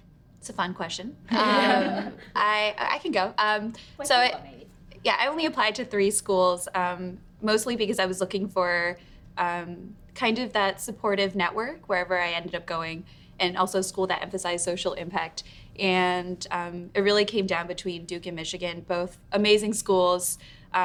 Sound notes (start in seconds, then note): 1.3 women laugh; 3.8 responding faintly